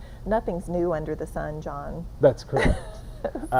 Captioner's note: chuckling